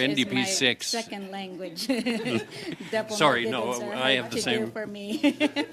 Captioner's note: some Laughter